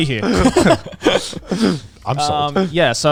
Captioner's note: guys laughing